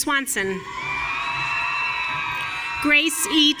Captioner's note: audience cheering